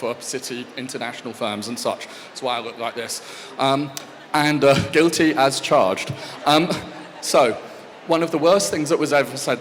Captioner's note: laughs